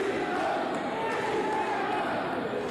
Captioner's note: cheers and applause